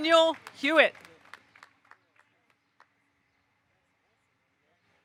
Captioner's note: audience applauding